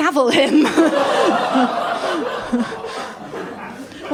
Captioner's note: laughter